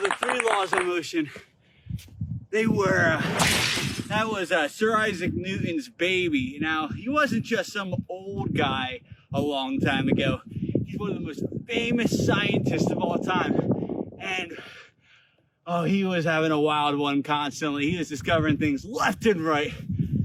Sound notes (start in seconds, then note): 3.1 crash